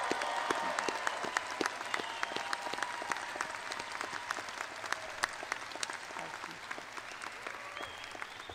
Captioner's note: audience applauds